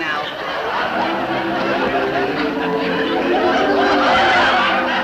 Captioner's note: audience laugh